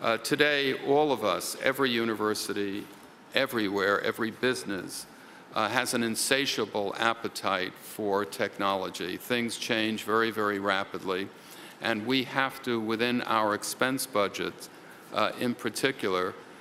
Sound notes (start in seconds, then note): none